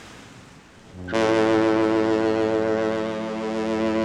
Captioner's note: waves crashing; ship horn blows